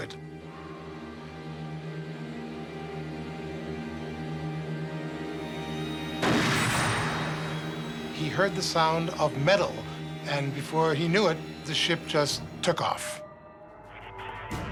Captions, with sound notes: [gunshot] He heard the sound of metal. And before he knew it, the ship just took off.